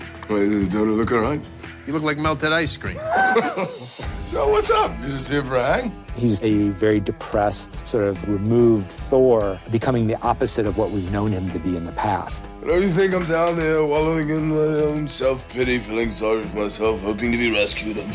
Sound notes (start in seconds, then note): 3.0 laughs